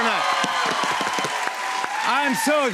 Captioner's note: cheers and applause